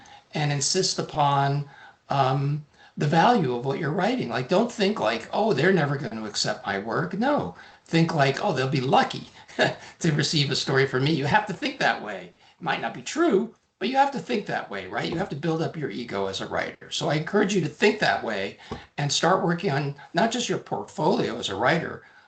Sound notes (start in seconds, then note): 9.4 chuckling